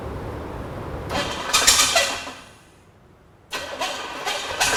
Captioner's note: engine cranking